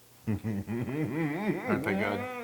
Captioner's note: laugh